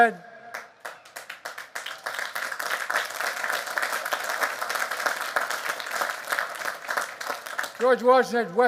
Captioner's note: applause